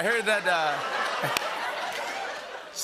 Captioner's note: laughter